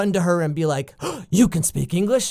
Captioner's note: gasp